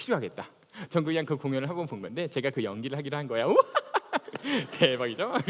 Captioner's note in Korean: 웃음